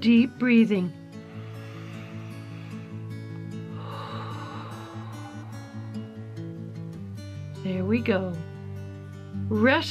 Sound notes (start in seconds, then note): 1.1 exhales; 1.1 inhales